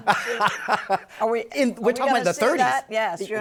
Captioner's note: laughs